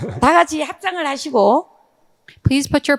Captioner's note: speaking in foreign language